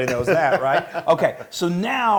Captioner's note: laugh